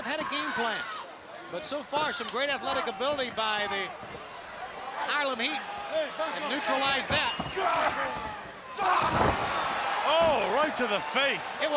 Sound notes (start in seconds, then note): 7.2 crowd cheering